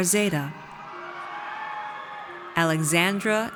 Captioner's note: audience cheers